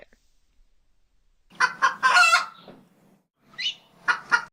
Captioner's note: rooster Crowing